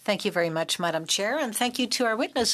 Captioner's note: speaking French